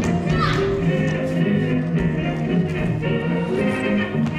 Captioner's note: Tranio cries out